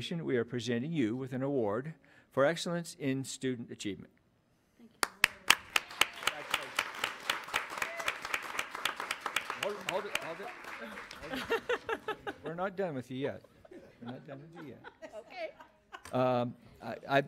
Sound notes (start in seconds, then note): 5.0 audience applauds; 10.7 audience laughs